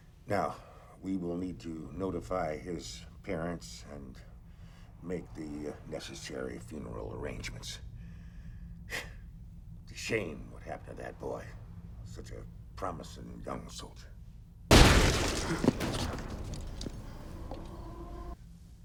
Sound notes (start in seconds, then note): 9.1 exhales sharply